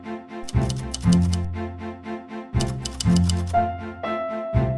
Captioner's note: gentle music; typewriter keys clattering